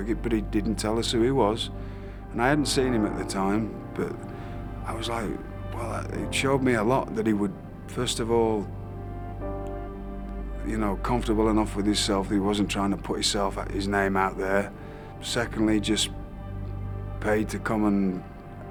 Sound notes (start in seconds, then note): none